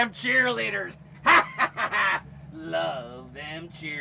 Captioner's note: laughs